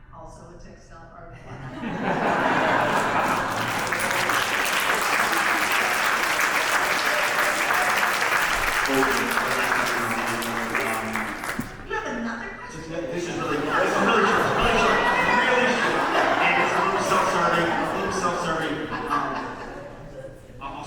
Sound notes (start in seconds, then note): 1.7 audience laughs; 3.0 audience applauds; 19.0 laughs